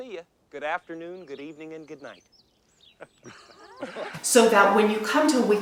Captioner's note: laughs